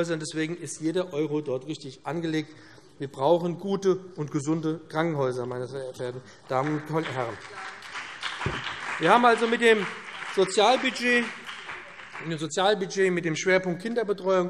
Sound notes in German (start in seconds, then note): 6.4 Beifall BÜNDNIS 90/DIE GRÜNEN und vereinzelt CDU